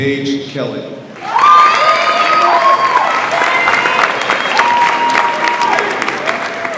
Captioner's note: audience applauds and cheers